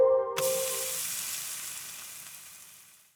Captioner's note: piano music; sizzling